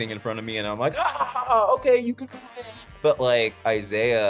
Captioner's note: laughs